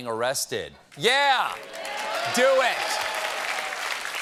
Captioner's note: applause